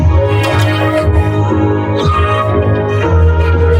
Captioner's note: groans, screams through teeth